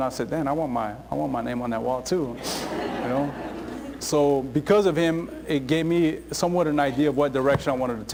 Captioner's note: laughter